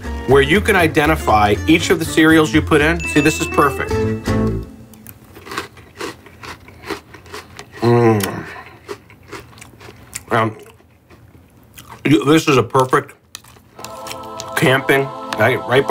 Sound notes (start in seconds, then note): 7.8 moans; 13.7 heavenly choir singing